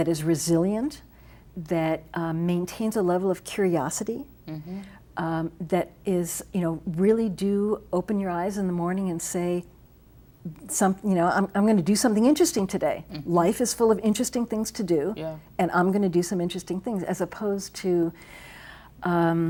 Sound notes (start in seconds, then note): none